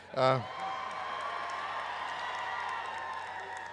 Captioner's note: applause